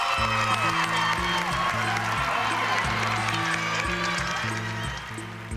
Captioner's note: cheering, applause